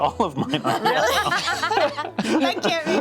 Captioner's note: laughs